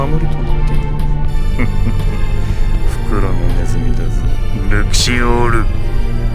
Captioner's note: chuckle